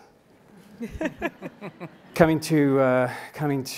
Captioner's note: laughing